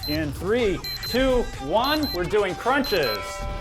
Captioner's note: beep sound